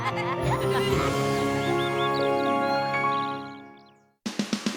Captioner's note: bird chirping